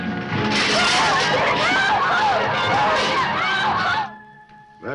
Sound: all screaming

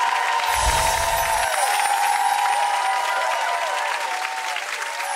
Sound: audience clapping; twinkling chime

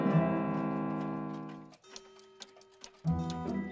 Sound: clocks ticking

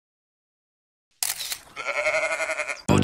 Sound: camera click; ram bleating

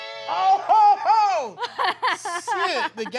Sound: laughing

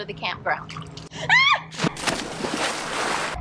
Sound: screams; water splashes

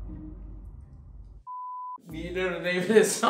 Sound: video beeps

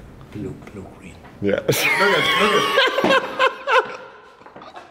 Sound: laughter

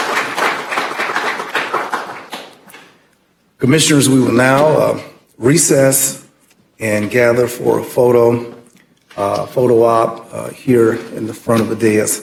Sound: applause

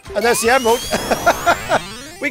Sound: laughs

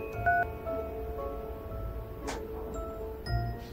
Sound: phone beeps

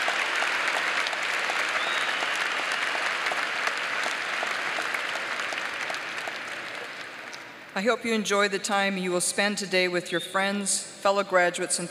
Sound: applause

